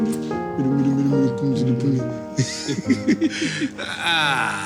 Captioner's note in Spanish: Risas